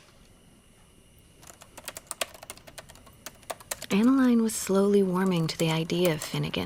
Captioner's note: typing